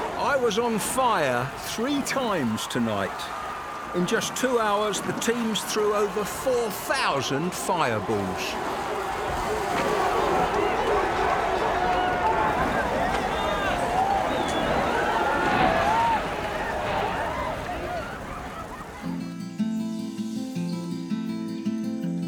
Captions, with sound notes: I was on fire three times tonight. In just two hours, the teams threw over 4,000 fireballs. (crowd cheers and screams) (bright music)